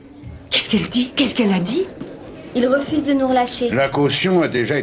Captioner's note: crowd murmuring